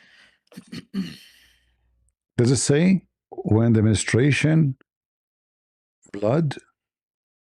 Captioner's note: clears throat and cough